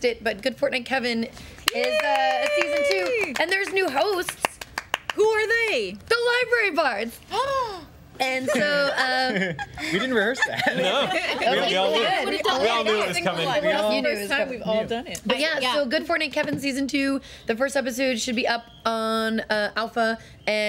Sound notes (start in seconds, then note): 8.3 gasps; 8.4 laughter